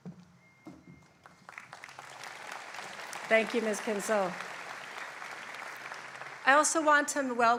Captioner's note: applause